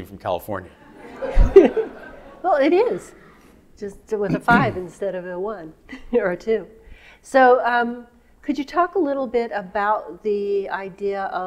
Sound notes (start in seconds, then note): 0.8 audience laughing